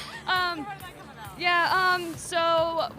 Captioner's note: laughter